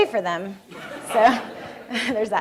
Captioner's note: laughter from room